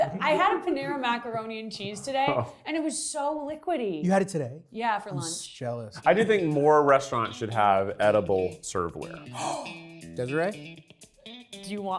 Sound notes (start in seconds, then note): 9.3 gasps; 9.5 upbeat music